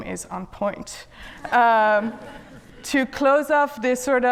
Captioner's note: audience laughs